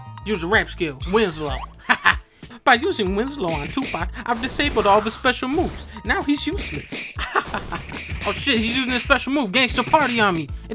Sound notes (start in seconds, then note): 7.1 laughs